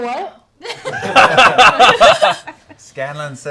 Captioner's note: laughter